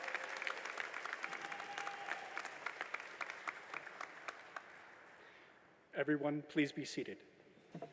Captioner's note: applause